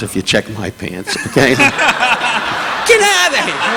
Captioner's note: audience laughing; laughing